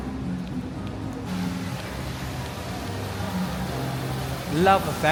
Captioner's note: fountain spatters